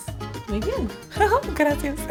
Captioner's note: giggles